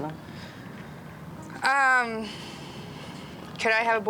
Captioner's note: sighs